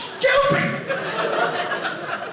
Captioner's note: audience laughing